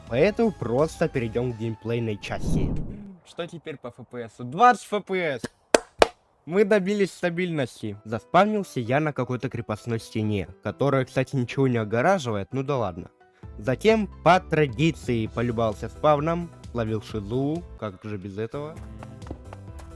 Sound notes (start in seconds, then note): 5.7 clap x3